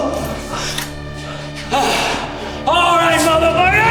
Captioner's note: Siegmund groaning; knife clinking